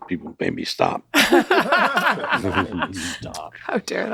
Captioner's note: all laughing loudly